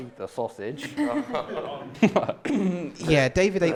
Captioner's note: laughter